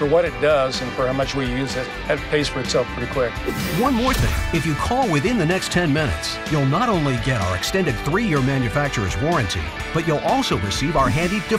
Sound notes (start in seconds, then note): 3.7 voiceover